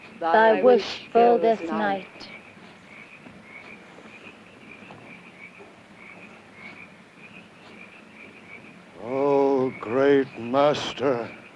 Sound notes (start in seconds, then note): 2.3 insects chirping